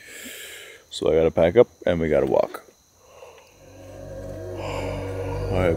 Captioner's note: yawns